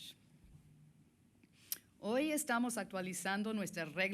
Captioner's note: speaking Spanish